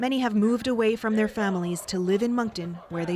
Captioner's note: speaking French